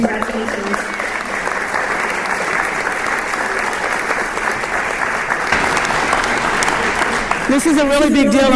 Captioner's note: applause